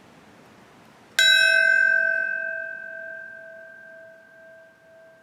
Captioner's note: bell rings